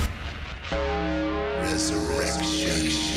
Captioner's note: bell tolling